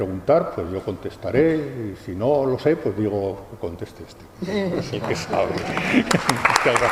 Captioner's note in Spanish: risas; aplausos